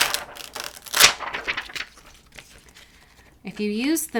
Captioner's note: plastic rustling